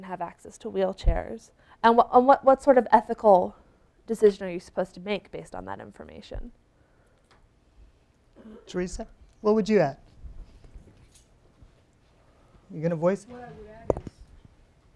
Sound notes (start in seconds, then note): none